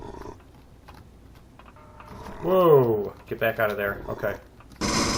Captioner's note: grunting continues; turret turns; pulse rifle; bat dying